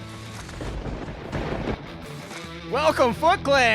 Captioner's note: lightning striking